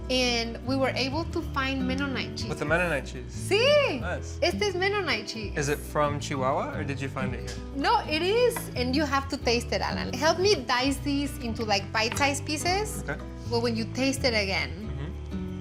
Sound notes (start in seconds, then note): 3.7 speaks Spanish